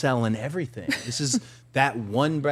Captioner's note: participant laughing